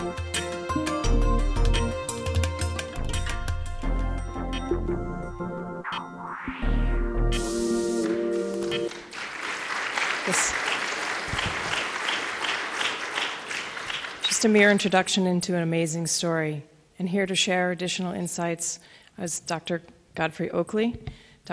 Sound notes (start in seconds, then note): 10.2 applause